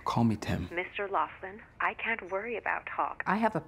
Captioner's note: on phone